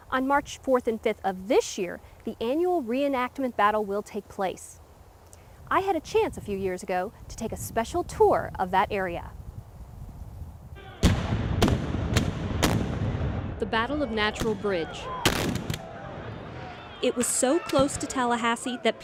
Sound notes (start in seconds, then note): 10.9 cannon fire; 15.2 gunshots